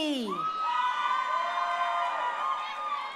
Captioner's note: crowd cheering